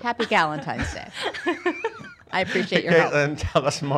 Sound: laughing

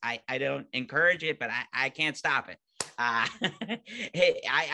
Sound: laughing

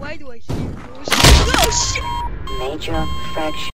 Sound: flatline

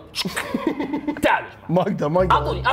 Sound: laughs

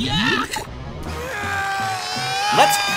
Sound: screaming; grunting

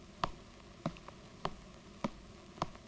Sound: none

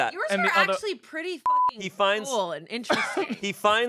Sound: beep

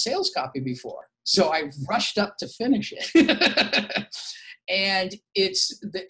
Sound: laughs

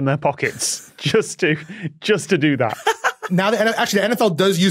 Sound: laughs

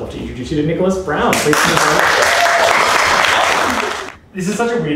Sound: applause

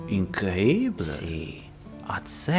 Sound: in Spanish

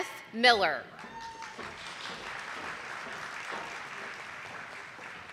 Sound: audience applauding

